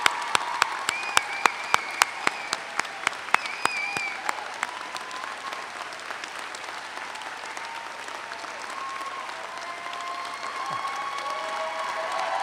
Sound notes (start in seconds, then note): 0.1 audience whistles; 9.4 audience cheers